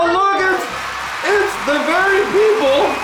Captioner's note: cheers in background